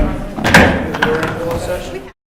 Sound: gavel bangs

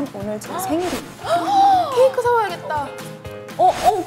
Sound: surprised

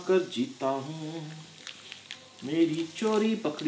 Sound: crushing sound

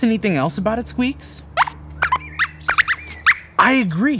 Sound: squeaks squeaks

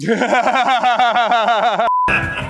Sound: laughter

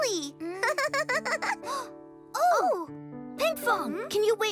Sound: chuckles; gasps

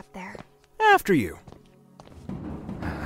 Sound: panting

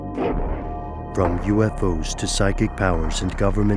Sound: voiceover

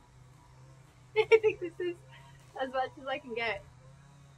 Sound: laughs

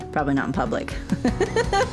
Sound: laughter

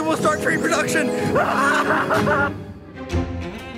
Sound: yelling; upbeat music

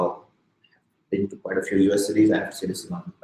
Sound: speaking softly

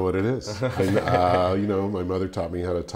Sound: chuckling

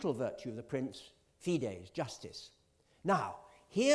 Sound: italian

